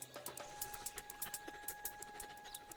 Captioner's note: panting